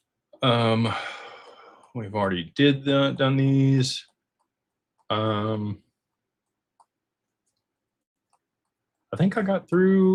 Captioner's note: sighs